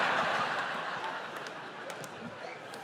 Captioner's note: laughter